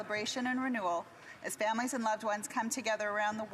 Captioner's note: speaking alternate language